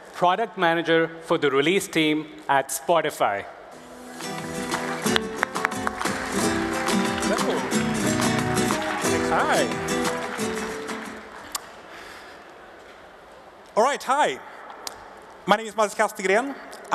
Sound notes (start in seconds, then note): 4.0 upbeat music playing; 4.1 applause